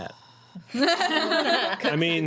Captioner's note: laughing